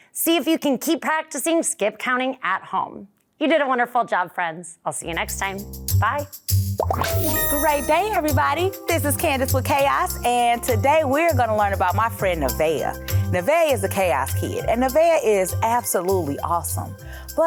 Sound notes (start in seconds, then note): 6.6 smooth music; 6.8 bubbles popping